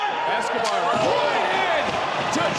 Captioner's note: spanish language